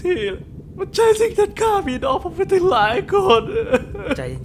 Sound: sob

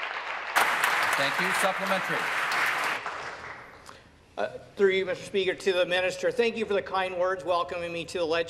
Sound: applause

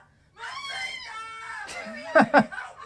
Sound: screaming; laughter

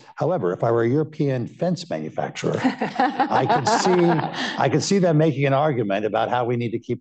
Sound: laughter

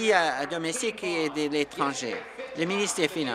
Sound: applause

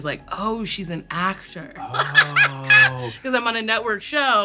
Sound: laughs

